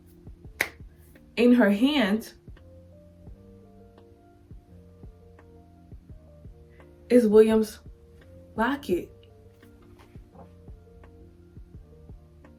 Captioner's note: long pause